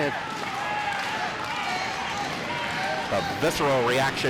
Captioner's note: crowd cheers